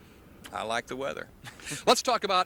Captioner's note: laughs